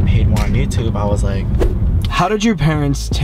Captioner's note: swooping